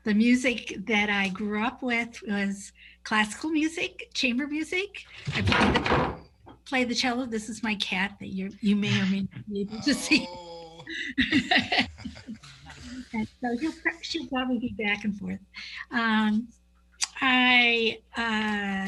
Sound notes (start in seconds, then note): 5.3 table thuds; 10.3 exclaims; 11.3 both laugh